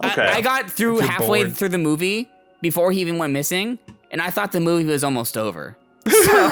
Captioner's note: laughs